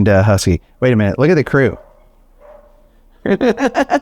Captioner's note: laughs